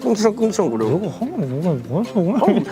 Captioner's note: grumbling grumbling